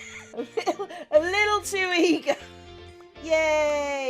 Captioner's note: laughing